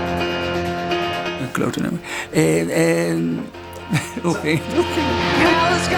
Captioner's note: laughter